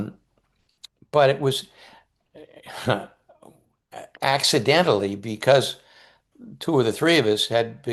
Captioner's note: chuckles